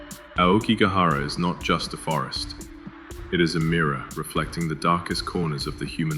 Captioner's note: somber tone